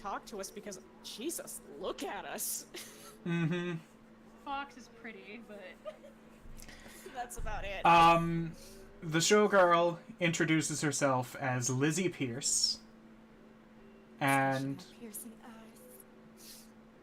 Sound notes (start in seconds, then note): 6.2 laughs